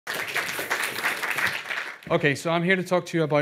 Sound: audience applauding

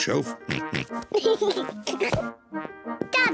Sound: oinks; giggling

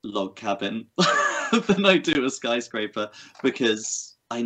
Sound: laughs

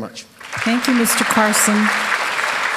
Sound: applause

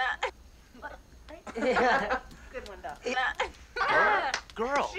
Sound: group laughter

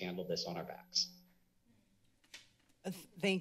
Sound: silence

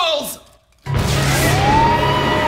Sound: electrical buzz

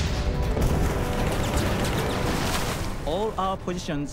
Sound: cannon shots exploding; rapid gunfire

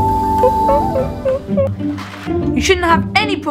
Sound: gorilla gibbering

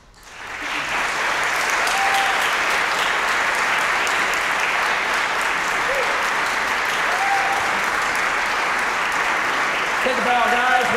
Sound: applause, cheering

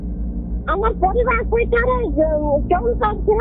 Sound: speaking sambalpuri-odia

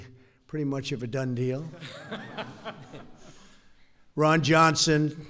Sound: laughter

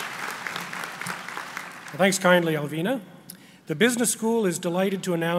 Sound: applause

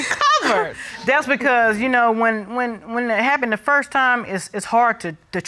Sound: stammers

